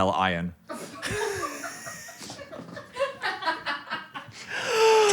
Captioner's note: Dan and crew laughing